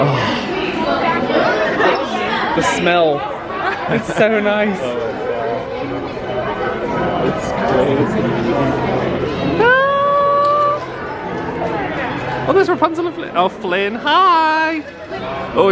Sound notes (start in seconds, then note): 0.3 sighs; 9.7 exclaims excitedly